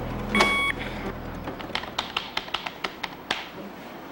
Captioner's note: monitor beeps